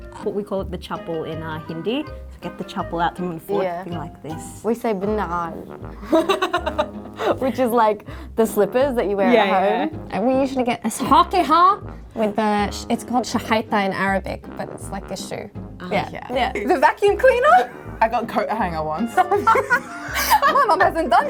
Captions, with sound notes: - What we call it the chapol in our Hindi. Get the chapol out to one foot and be like this. - We say binhan! (laughing) Which is like the slippers that you wear at home. - Yeah, yeah. - And we usually get ask hak eh ha! it's called shagaita in Arabic. But it's like a shoe. - Yeah. - Yeah. - The vacuum cleaner. - I got coat hanger once. (laughing) - My mom hasn't done that.